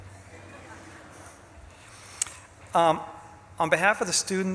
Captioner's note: audience laughs